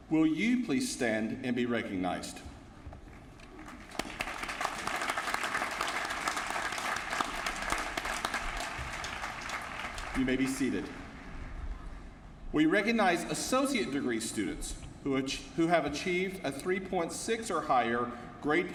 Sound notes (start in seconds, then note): 3.5 applause